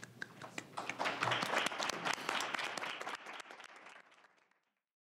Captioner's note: applause